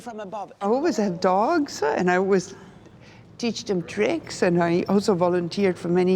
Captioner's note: narrating